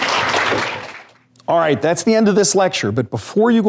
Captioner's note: applause